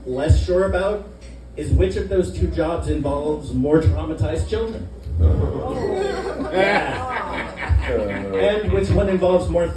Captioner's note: laughter